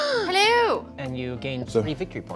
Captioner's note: gasps